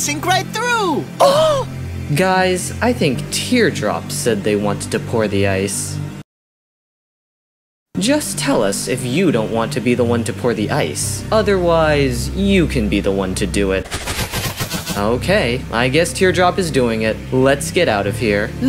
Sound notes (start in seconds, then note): 1.9 gasp; 6.3 silence